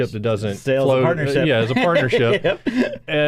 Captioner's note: chuckles